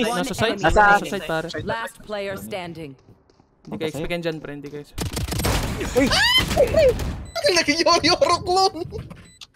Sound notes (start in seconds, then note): 6.0 manly scream